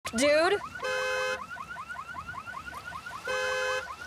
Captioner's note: car horn honks; car alarm blares